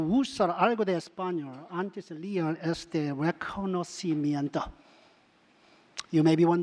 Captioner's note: speaking other languages